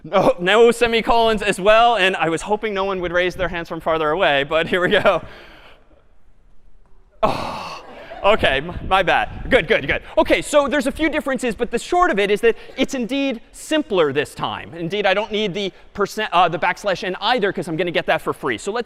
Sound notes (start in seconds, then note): 7.8 laughter